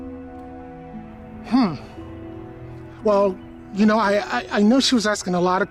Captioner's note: stammers